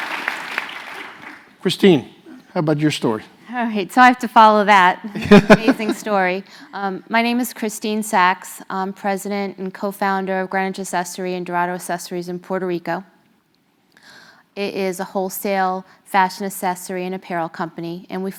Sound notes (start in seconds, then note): 0.0 applause; 5.2 laugh